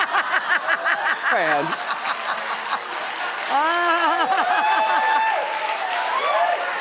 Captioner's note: audience applauding and cheering